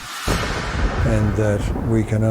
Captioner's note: thunder booming